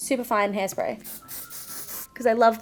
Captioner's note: spray hissing